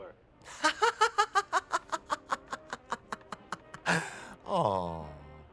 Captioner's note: laughing